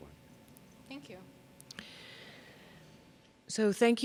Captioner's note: voiceover